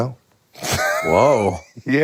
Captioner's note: Finn laughing